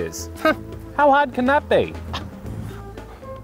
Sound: scoffs

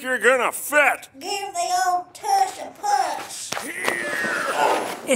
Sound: grunting, effort

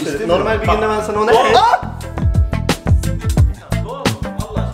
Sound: scream

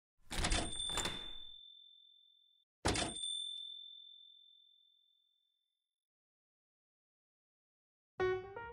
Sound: door Chime

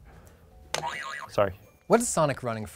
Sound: boing

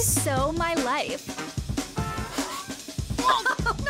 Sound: sniffing; laughing

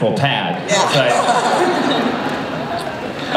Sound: laughter

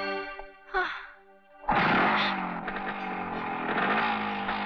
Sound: motorcycles Engine Starting

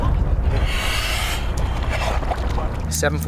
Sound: diver inhaling

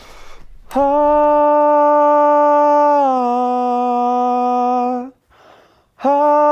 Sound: vocalizes

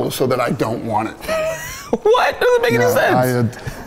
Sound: laughs

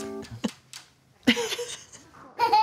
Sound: laughs

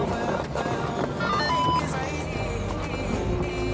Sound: bell rings

